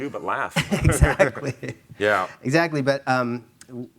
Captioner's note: chuckling